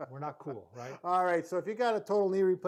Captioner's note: laughing